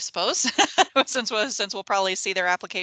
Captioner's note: laughs